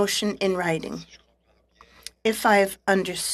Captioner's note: speaking French